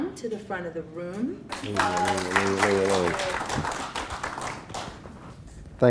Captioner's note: clapping